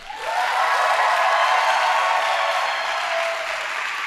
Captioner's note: audience applauding